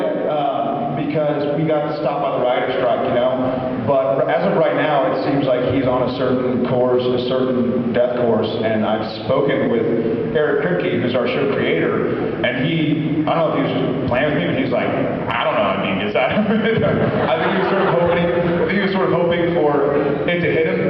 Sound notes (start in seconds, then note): 16.9 laughs